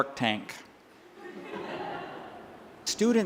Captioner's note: laughter